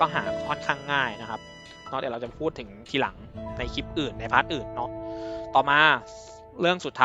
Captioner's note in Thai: เสียงสูดหายใจ